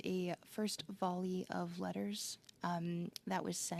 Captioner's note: speaking French